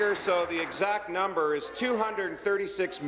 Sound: applause

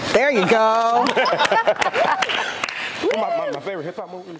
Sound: laugh; applause

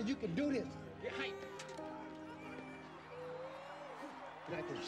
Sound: audience cheering

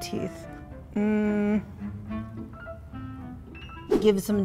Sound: murmurs

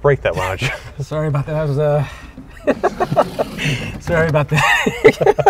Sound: laughing; laughing

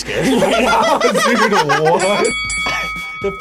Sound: men laughing; bell dinging

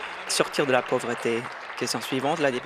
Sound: applause

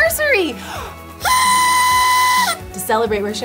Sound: noisemaker buzzes

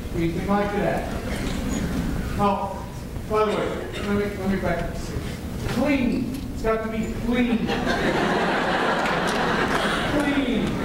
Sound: laughter

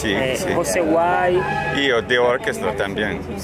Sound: speaking Spanish

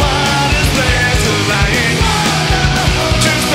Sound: crowd

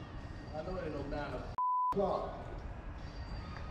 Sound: beep

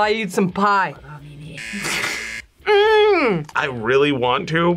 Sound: buzzer

